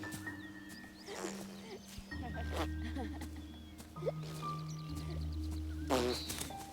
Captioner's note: goofily vocalizing; laughing